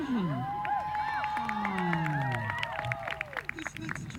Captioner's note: cheers